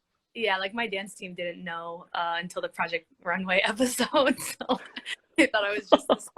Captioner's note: laughs